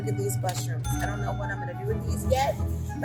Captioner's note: cash register dings